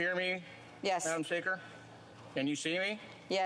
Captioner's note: speaking FRENCH